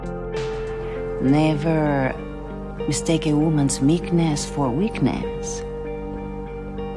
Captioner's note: voiceover